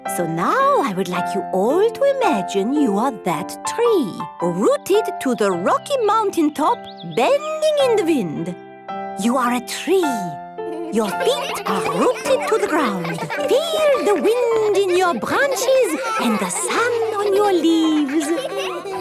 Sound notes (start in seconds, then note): 13.1 all giggling